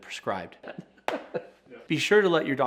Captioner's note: laughing